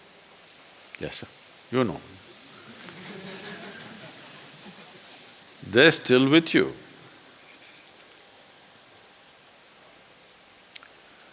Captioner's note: laughter